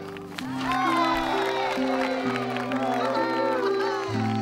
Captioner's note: applause and cheering